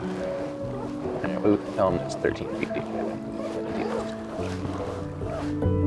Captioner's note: gentle music; indistinct conversation